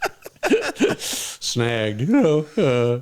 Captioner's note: laughter